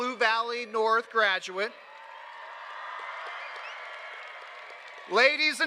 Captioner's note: cheers and applause